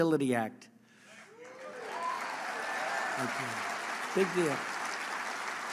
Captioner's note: applause